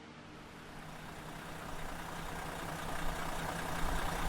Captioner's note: engine idling